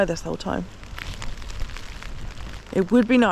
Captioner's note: rain